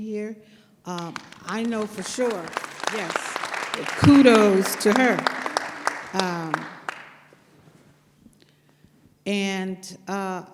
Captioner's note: applause